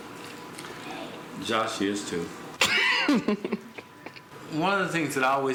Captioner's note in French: gloussements